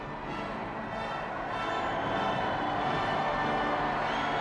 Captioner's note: crowd cheering